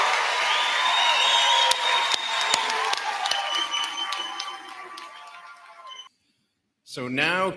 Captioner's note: cheers and applause